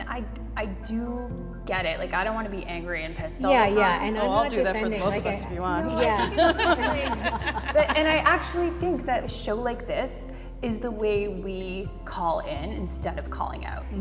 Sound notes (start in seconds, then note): 6.1 everyone laughs